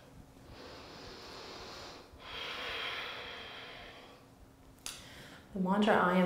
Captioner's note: heavy breathing